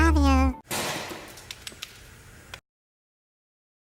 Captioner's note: egg splatting